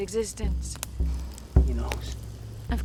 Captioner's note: fire crackling